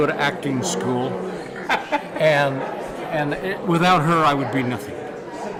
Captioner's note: laugh